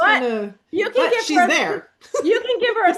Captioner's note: laughs